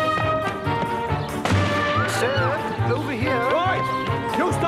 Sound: gunshot

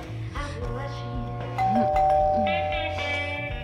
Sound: doorbell ringing

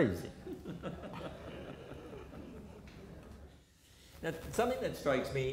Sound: audience laughter

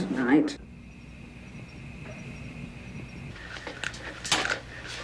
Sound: insects trilling

